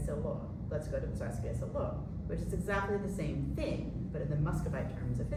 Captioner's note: non-english